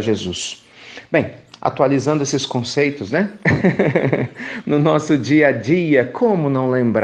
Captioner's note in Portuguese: risos